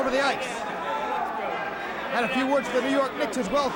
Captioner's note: crowd chatter